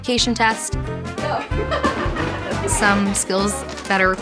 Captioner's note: laughter